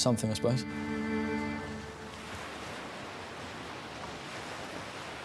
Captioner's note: waves crashing